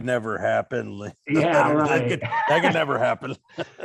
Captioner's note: laughing